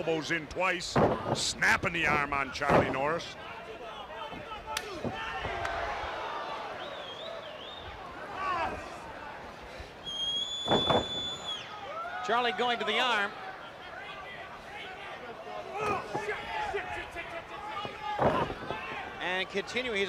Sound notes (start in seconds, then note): 3.6 crowd chatter